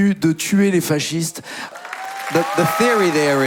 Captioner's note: speaking in foreign language; crowd cheering